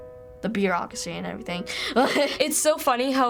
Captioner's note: laughs